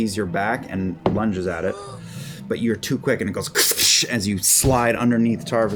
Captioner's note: noise of jaws snapping shut